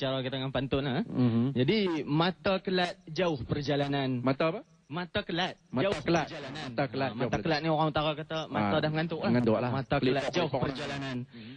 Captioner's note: reciting a pantun